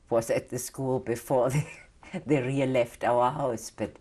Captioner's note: laughs